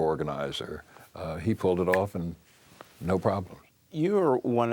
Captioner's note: snaps fingers